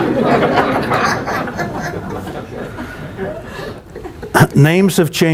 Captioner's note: laughter